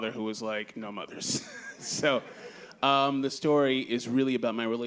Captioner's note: laughs